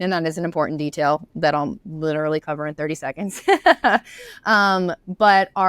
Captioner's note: laughs